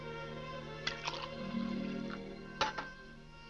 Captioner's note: liquid pouring